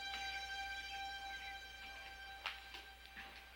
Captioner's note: floor creaking